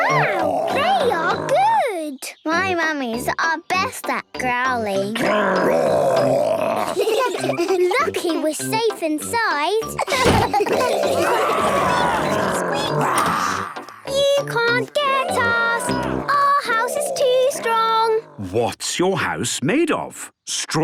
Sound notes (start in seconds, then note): 5.1 growls; 6.4 giggling; 10.0 growls, snorts